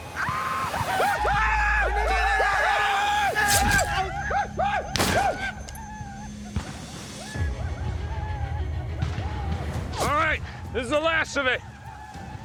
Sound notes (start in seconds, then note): 0.1 war cries; 4.9 gunshot